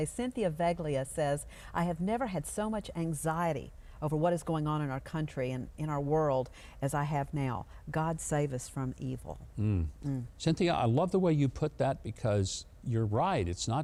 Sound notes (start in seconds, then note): 9.6 both hums in agreement